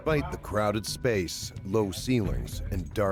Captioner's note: voiceover